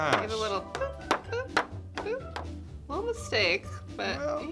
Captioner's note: none